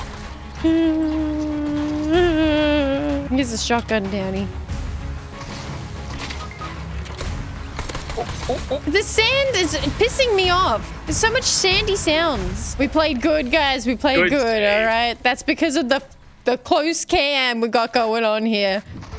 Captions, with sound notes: [Nervous whimper] He has a shotgun, Townie. The sand is pissing me off! There's so much sandy sounds. We played good guys, we played good, alright. That's because of the close cam we got going on here.